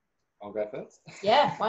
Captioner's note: laughs